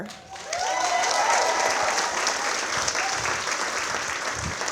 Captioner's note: audience applauding